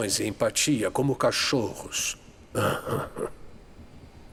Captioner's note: laughter